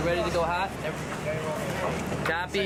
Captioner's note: man on radio